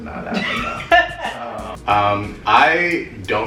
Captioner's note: laughter